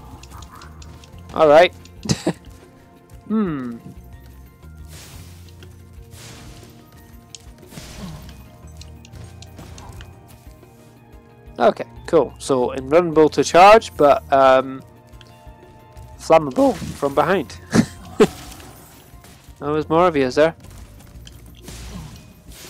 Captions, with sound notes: All right. (fire blasts) Okay, cool, so invulnerable to charge, but flammable from behind. Oh there's more of you, is there?